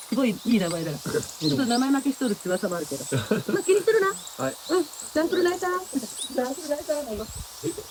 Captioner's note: okinawan dialect